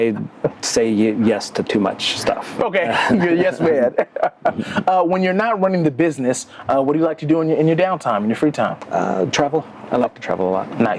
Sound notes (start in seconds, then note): 0.0 laughs; 2.8 laughs